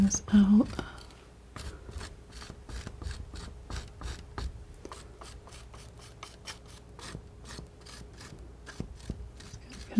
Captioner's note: scraping